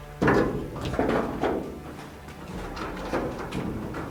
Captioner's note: door clanging